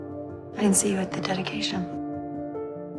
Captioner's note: voiceover